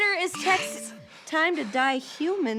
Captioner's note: phone vibrates